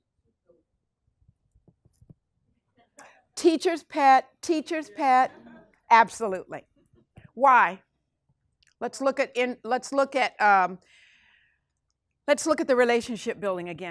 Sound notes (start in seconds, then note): 5.0 class chuckles